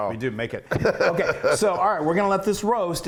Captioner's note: laugh